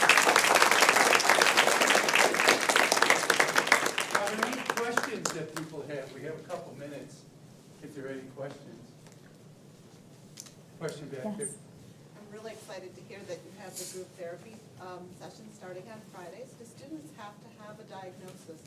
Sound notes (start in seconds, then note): 0.0 applause